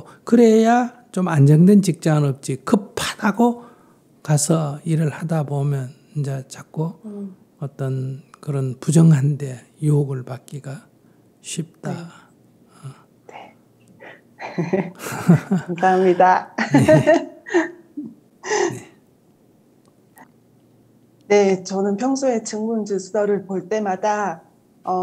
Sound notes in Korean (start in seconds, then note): 14.4 질문자와 스님 웃음; 19.9 웃음